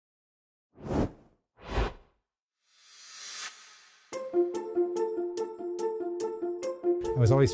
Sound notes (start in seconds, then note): 0.8 logo swishing; 4.1 bright music